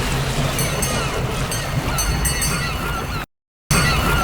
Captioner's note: bell dinging